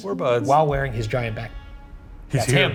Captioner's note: horn honking